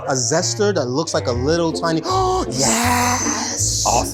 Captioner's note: gasps